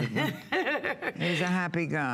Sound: laughter

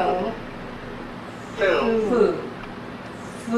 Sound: voiceover

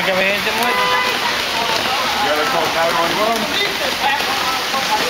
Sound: background chatter, man

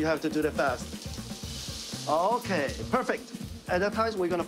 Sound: sizzling

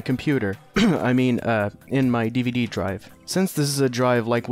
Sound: cough

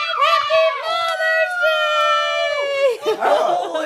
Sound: cheering

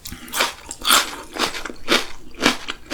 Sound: the crunchy sound is so nice to hear

